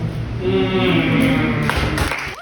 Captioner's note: poetry sounds & claps